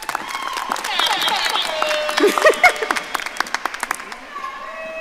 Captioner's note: audience applauding; siren blaring; audience cheering